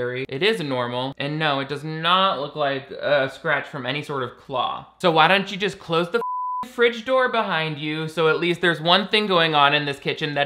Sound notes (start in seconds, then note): 6.2 beeps